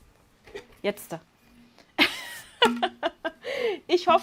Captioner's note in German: Lachen